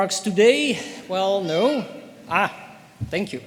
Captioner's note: baby exclaims